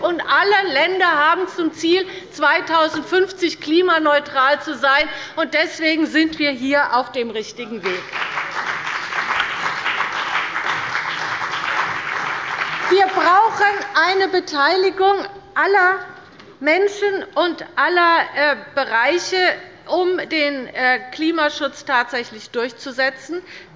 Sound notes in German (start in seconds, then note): 7.8 Beifall bei Abgeordneten der CDU und bei dem BÜNDNIS 90/DIE GRÜNEN